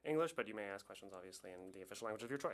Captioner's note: speaking French